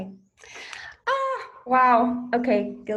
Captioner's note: shouts